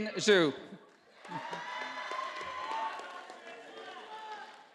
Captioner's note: audience applauding